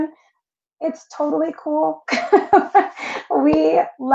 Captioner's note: laughs